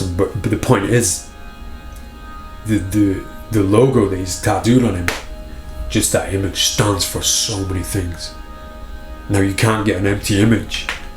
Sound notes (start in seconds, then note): 5.0 hand thuds